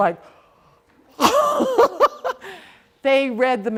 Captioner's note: laughing